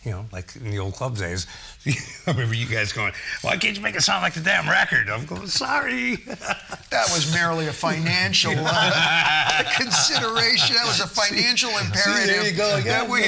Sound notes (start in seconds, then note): 6.3 laughing; 9.0 all laughing